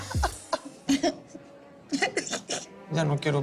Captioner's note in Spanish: Sollozos